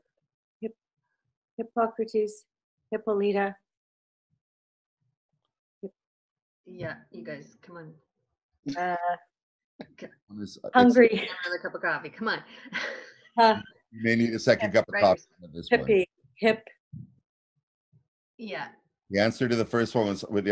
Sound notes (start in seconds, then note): 14.0 chuckling